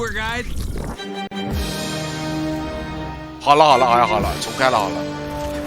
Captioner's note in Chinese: 大笑